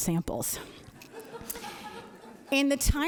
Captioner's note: audience laughing